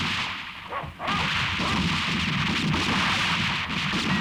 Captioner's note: dog barking; guns roaring